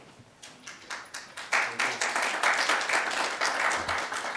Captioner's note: audience clapping